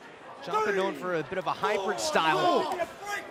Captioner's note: crowd chatter